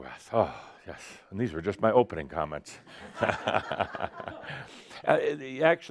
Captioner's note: Adamus chuckles